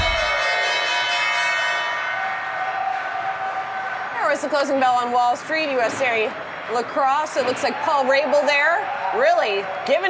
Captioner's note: bell ringing